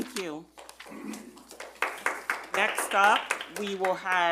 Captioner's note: audience clapping